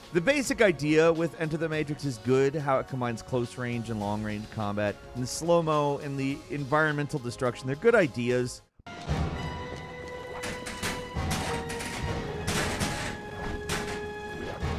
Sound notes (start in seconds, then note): 8.8 dramatic music; 9.6 footsteps clopping; 10.2 lockers clanking